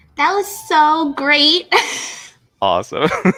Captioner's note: laughs